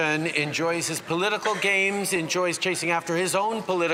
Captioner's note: speaking French